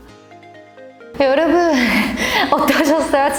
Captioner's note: laughs